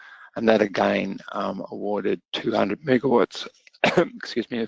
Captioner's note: coughs